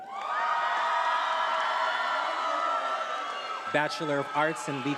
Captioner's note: attendees applauding and cheering